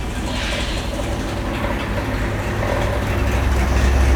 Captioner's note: engine revving